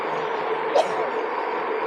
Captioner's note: wife sneezing